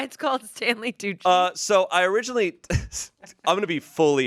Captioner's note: laughs